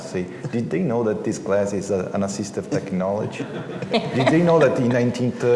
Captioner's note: laughter